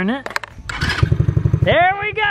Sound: engine roars

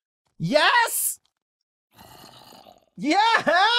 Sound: Creeper groans

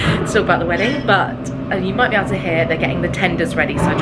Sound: machine whirring

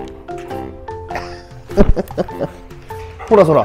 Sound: laughs

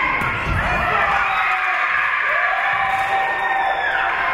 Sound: spectators shouting encouragements; spectators cheering; whistle being blown; spectators cheering and applauding

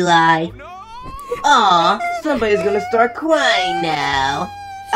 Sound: eli whimpering

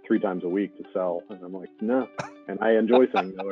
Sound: laughing

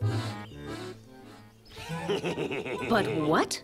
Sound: wolf laughs

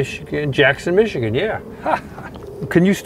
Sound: chuckles

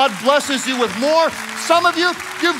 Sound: congregation clapping

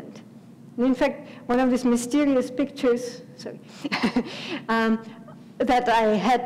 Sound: laugh

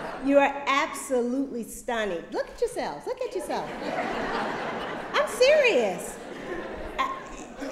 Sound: laughter; laughter

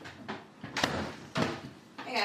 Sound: door shuts

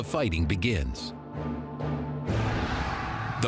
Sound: battle cry

